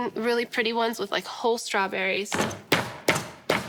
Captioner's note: pounding